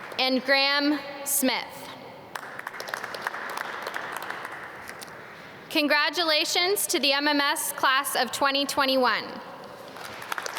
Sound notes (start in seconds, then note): 2.3 audience clap; 9.9 applause